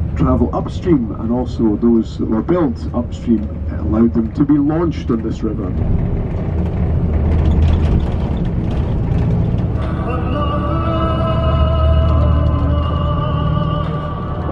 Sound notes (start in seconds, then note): 7.0 coach rumbling